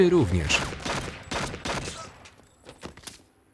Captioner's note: gun fires